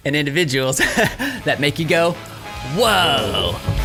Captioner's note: laughs